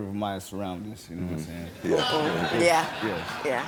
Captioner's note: audience laughs